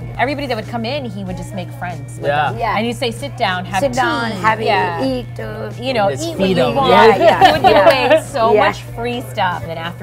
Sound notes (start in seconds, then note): 7.1 laughs